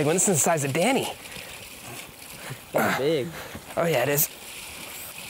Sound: sighs

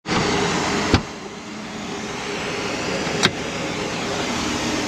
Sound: door clicks

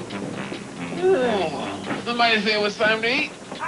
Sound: yawning

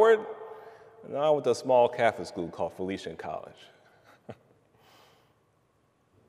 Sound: giggles

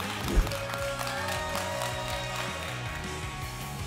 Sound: applause and cheering

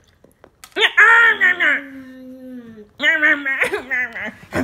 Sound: chomping

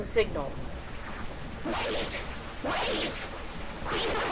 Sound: breaking up

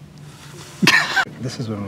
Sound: laughs

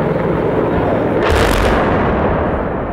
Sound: explosion

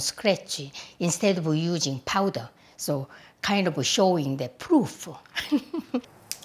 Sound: laughs

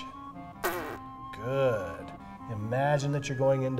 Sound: blows raspberry

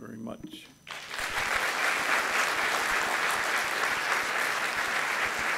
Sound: gathering clapping

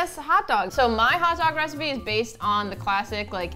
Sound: none

